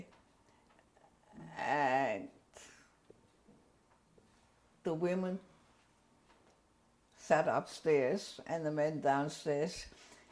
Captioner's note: pauses for 3 seconds